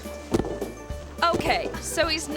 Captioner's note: foot thumping; upbeat music